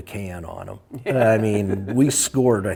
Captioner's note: laughs